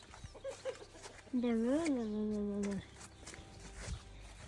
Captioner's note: speaking in foreign language